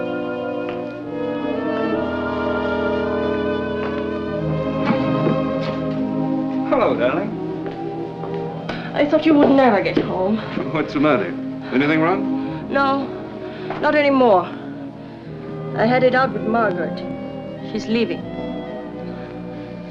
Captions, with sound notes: [ Whispers ] Alan? Hello, darling. I thought you would never get home. What's the matter? Anything wrong? No, not anymore. I had it out with Margaret. She's leaving.